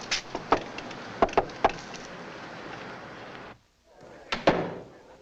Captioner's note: knocks on door; men chattering nearby